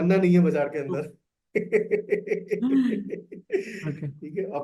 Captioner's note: laughs